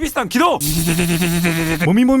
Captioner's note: activation sound